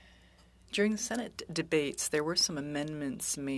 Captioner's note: speaking French